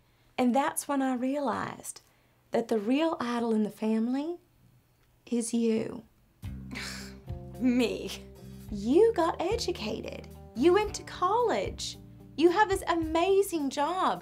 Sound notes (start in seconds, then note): 7.1 scoffs